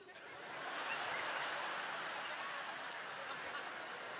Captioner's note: audience laughing